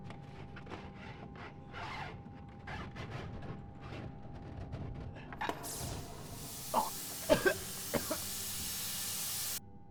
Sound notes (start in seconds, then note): 5.6 loud bang, air hissing; 6.4 coughing